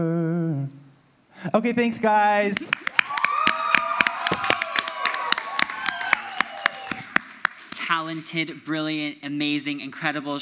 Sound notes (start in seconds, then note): 2.6 audience applauds; 2.6 audience cheers